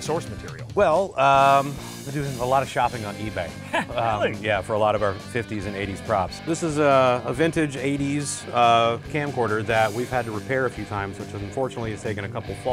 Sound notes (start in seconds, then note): 3.5 laughs